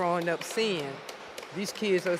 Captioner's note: audience applauds